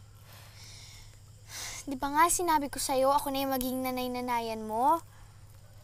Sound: sighs

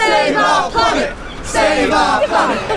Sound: protest calls continue

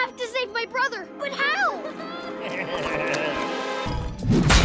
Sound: chuckles

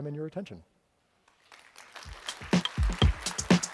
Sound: applause

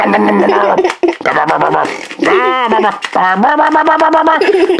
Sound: laughs; man making silly noises

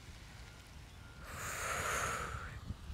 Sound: exhales

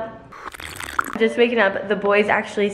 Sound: slurping

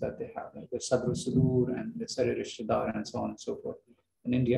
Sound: non-english

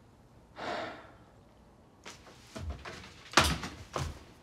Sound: Tyler sighs

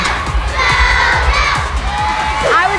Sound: crowd cheering

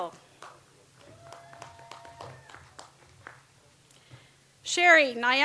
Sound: audience applauds

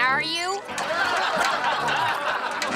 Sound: audience laughing

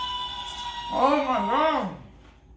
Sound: rooster crowing

